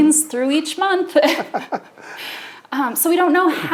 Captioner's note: both laughing